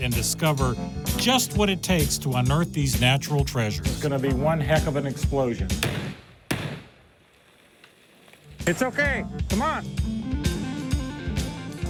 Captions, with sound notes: AND DISCOVER JUST WHAT IT TAKES TO UNEARTH THESE NATURAL TREASURES. IT'S GONNA BE ONE HECK OF AN EXPLOSION. [explosion pops] IT'S OKAY. COME ON.